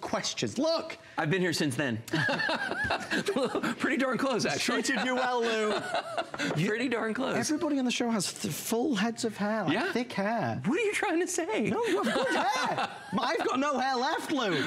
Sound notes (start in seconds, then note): 11.7 laughter